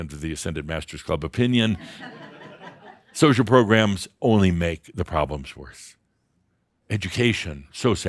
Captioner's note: some chuckles